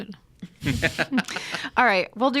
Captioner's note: laughs